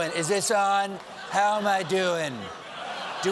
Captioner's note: laughter